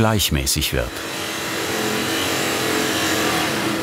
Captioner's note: humming and whirring